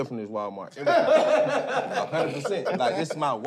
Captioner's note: laughter